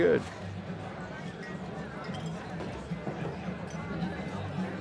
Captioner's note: chatter